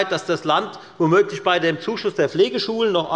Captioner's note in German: none